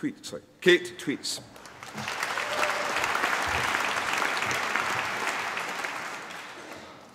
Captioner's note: applause